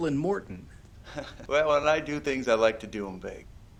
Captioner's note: chuckles